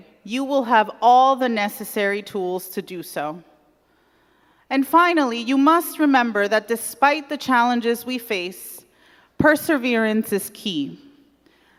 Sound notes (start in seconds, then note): none